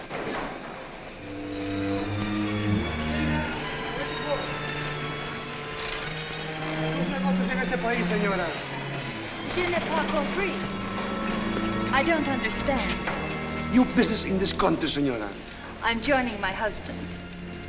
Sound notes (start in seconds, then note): 6.6 man speaking spanish; 9.4 woman speaking french